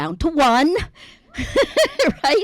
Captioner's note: laughs